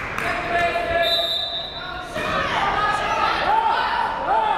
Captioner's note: whistle blaring